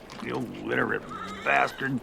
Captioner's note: spits